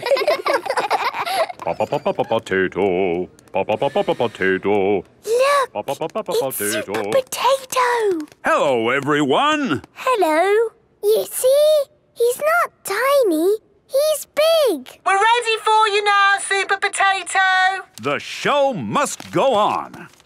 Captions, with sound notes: - (children laughing) - (sing-song voice) Po-Po-Po-Potato! Po-Po-Po-Potato! - (hushed) Look! It's Super Potato! - Hello, everyone! - Hello! - You see!? He's not tiny, he's big! - (through megaphone) We're ready for you now, Super Potato. - The show must go on!